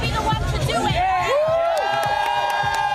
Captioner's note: cheers and applause